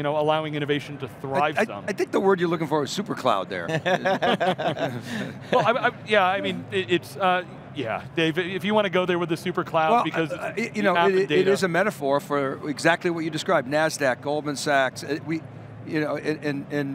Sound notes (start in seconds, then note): 3.7 all laughing